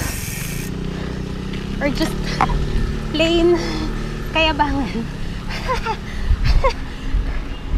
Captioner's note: laughs